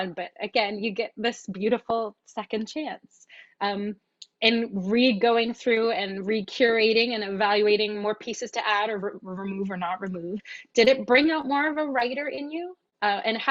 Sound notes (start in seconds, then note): none